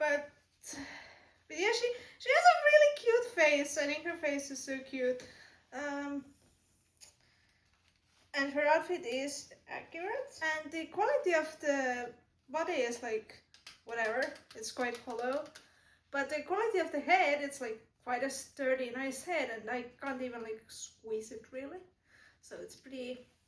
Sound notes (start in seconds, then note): 14.7 hollow tapping